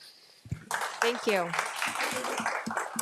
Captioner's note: audience applauding